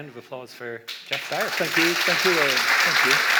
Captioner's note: audience applauds